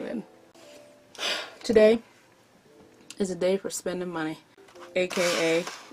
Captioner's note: exhales